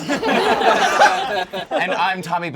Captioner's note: all laugh